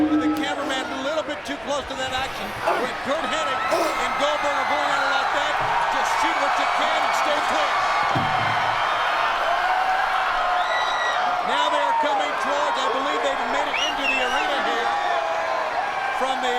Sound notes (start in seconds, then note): 8.2 audience roars; 10.8 audience screams and whistles